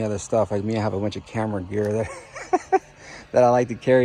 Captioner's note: chuckling